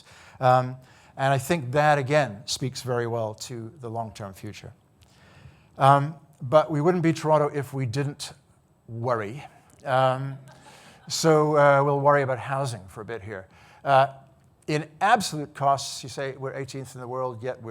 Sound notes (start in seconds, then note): 9.9 audience laughing